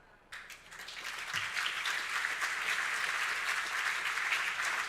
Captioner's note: audience applauding